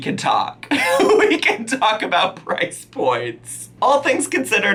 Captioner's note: laughing